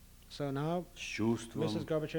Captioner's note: non-english speech